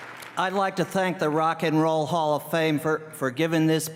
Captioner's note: applause